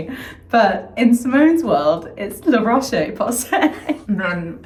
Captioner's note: laughs